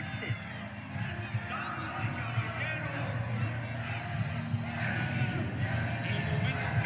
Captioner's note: crowd chanting, Marry me, Marry me